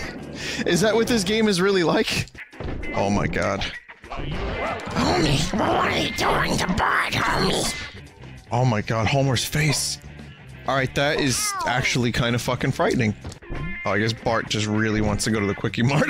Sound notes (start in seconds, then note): 5.0 raspy Marge impression